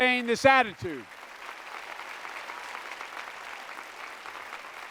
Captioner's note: applause